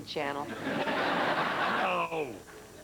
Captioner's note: laughter